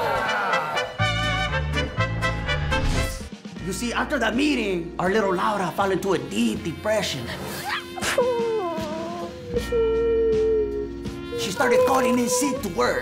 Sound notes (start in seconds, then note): 7.3 weeps